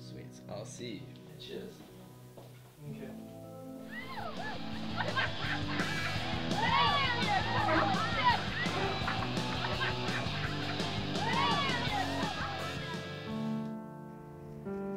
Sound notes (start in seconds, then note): 6.1 party chatter